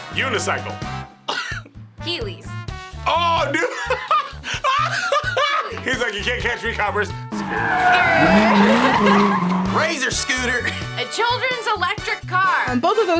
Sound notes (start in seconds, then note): 3.5 laughs; 7.7 both laugh